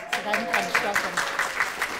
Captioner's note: audience applauding